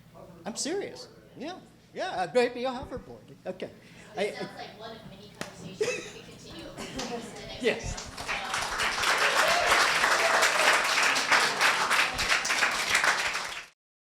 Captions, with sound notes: I'm serious. - [Voiceover] That sounds like one of many conversations to be continued. (applause)